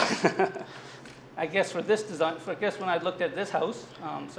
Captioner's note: laughter